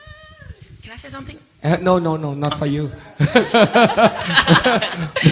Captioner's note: laughter